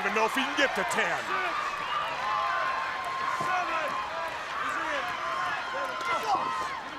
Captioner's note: crowd cheering